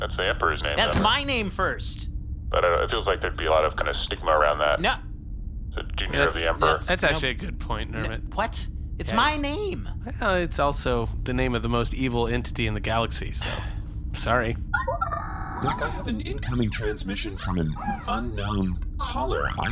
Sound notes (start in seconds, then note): 13.4 sighs; 15.6 incoming transmission